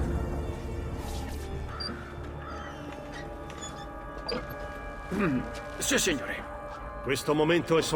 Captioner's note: clears his throat